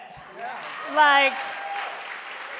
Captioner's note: audience cheering and applauding